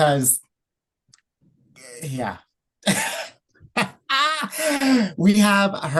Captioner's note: laughs